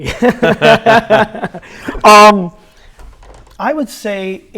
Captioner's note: laughs